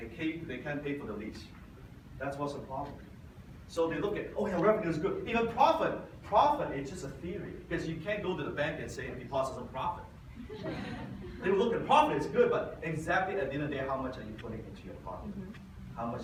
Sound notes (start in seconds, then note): 10.4 audience laughs